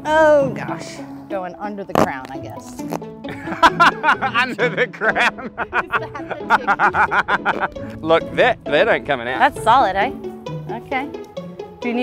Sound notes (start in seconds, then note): 3.3 laughs